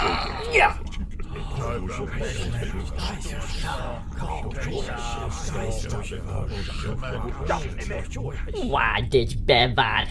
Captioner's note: Klingon shocked muttering